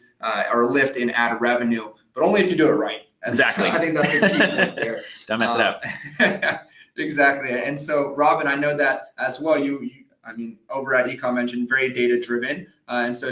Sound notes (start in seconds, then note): 3.2 laughs